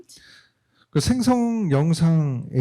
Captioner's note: speaking korean